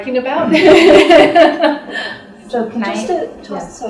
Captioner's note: laughter